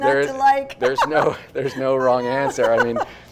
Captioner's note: chuckles loudly